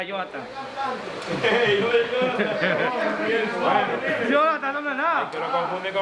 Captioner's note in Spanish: gente hablando y riéndose